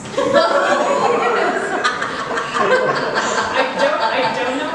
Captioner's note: laughs